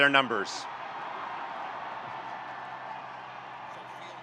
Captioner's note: students cheering